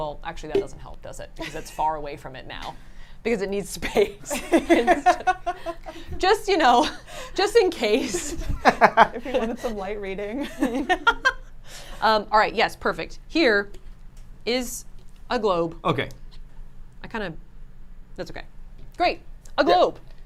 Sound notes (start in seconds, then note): 4.0 laugh; 10.5 laughs